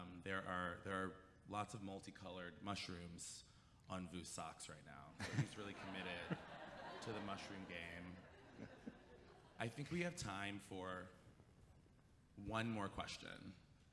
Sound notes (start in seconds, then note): 5.2 chuckles